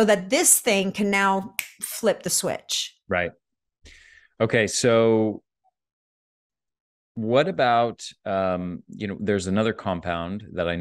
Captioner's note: snaps